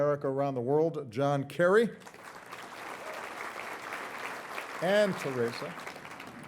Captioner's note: audience applauding